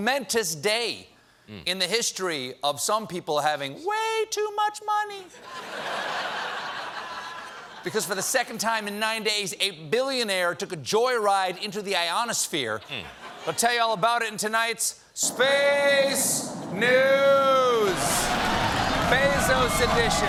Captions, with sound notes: SO HAPPY YOU COULD JOIN US TONIGHT FOR A MOMENTOUS DAY IN HISTORY OF SOME PEOPLE HAVING WAY TOO MUCH MONEY! ( LAUGHTER ) BECAUSE FOR THE SECOND TIME IN NINE DAYS, A BILLIONAIRE TOOK A JOY RIDE INTO THE IONSSPHERE.